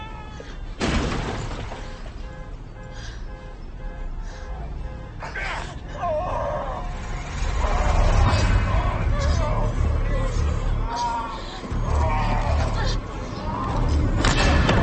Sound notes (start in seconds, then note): 0.8 metal crunching; 0.8 glass breaking; 1.7 horn honking; 6.7 tense music